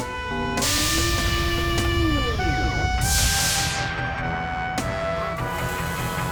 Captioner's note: machinery whooshing and humming